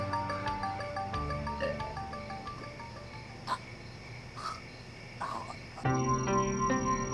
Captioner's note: throwing up